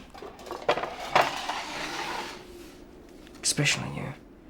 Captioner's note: tray sliding